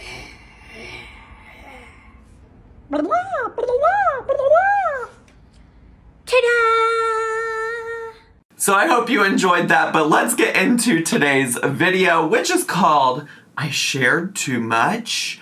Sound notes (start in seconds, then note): 0.0 groans; 2.9 makes silly noises